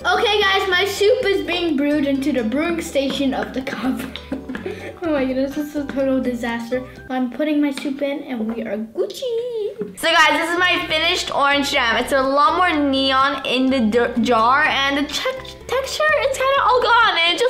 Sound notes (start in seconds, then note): 3.6 laughing